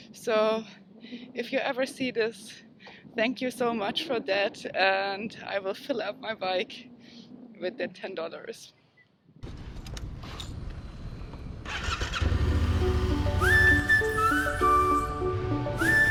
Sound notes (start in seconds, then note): 11.6 engine revs; 12.8 whistle music